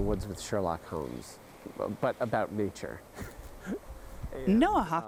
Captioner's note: laughs